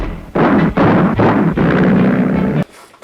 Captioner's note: engine backfires